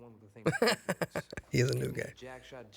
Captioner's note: huertas laughs